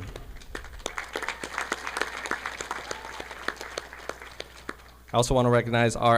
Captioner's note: audience applauding